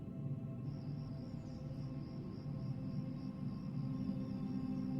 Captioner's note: crickets chirping; ambient music